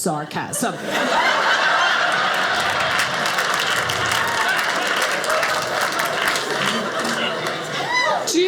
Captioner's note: audience laughing